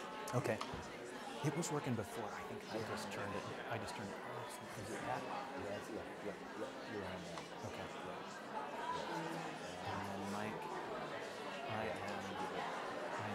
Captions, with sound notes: OK. It was working before. I think I just turned it off. [CHATTER]